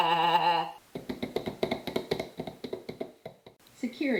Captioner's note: footsteps from runnin' away